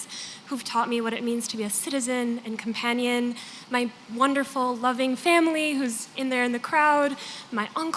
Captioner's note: none